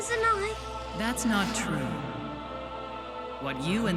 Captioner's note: over comms